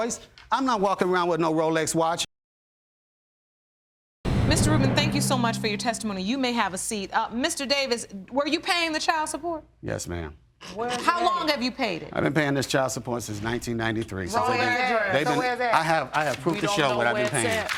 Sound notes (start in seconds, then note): 10.5 snickering